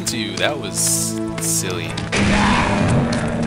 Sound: gunfire and monster roars

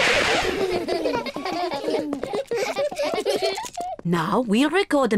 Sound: all laugh

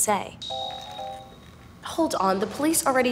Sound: happy software noise

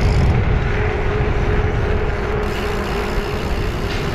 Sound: bicycle pedaling

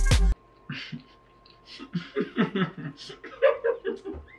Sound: laughing

